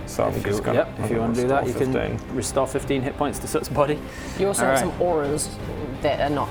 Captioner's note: none